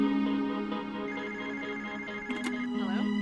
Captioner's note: phone rings